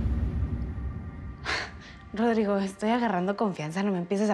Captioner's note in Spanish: suspiro